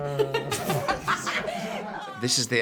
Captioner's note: laughter